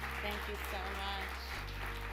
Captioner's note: audience applause